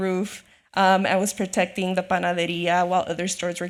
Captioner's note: speaks Spanish